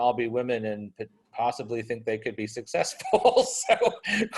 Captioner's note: laughs